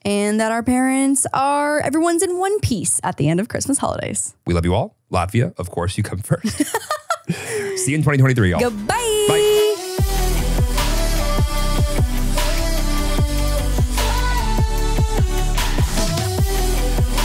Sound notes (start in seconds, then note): 6.4 laughs; 9.3 upbeat music